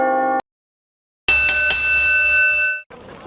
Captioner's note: church bell sound effect; wrestling bell sound effect